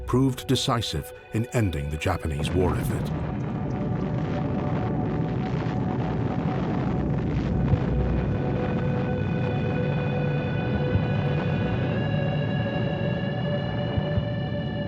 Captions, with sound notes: proved decisive in ending the Japanese war effort. (explosion booming) (soft ominous music)